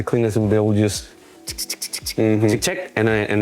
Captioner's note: imitates pen scratching